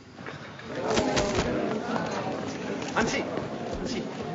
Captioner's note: clicking